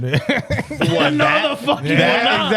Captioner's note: laughing